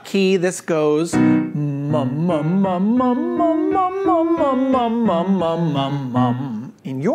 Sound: soft music; jabbers

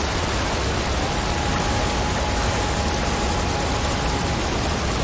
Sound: water falling; yelling; water falling

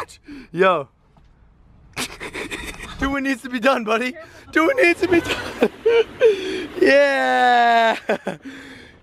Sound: laughing

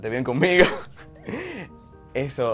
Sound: laugh

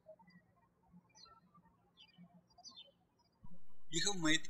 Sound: birds chirping

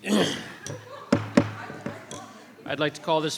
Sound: gavel tapping

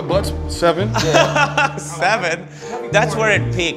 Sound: laughs

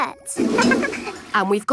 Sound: toilet flush

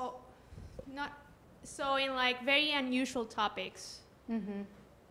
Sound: voiceover

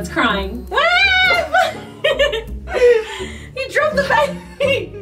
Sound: shouting

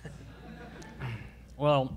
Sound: all laugh

